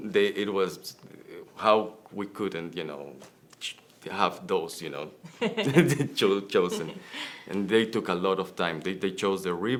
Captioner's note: laughter